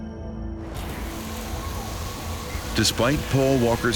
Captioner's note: water spraying; sirens wailing